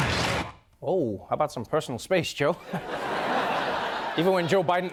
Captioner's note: chuckles